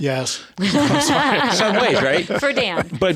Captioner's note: laughing